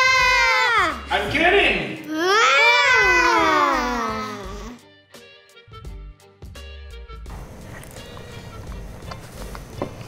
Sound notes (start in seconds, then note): 3.2 both sigh